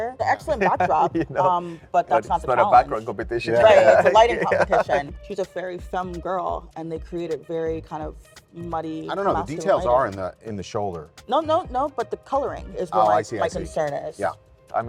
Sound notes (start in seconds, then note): 3.5 laughs